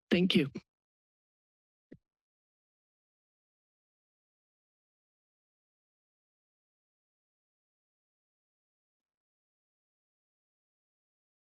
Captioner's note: silence